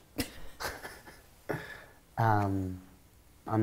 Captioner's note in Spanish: risas